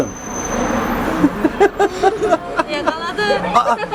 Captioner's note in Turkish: kahkaha sesleri